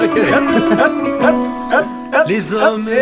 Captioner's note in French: chant